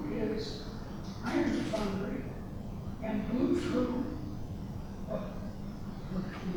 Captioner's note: speaking softly